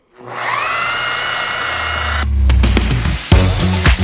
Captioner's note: tool buzzing; upbeat music